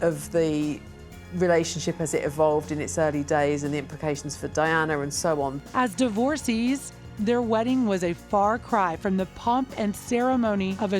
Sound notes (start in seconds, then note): none